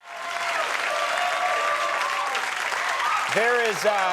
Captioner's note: audience applauding